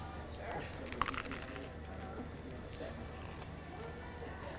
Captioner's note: toast crunches